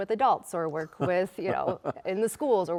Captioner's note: chuckling